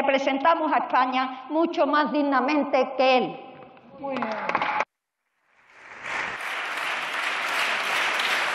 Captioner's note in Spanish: Aplausos.-Una señora diputada: ¡Muy bien!